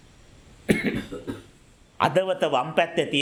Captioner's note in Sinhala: කැස්ස; උගුර කෑරීම